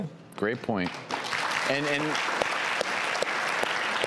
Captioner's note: clapping